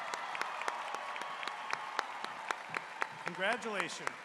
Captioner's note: cheers and applause